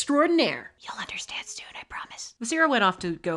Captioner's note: whispering